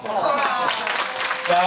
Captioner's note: audience applauding